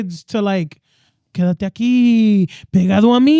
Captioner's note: speaking In Foreign Language